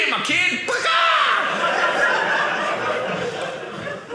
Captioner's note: audience laughing